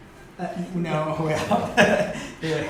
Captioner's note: laughter